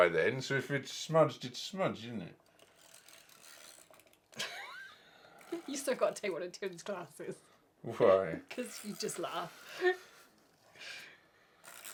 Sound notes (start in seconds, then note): 4.4 laughing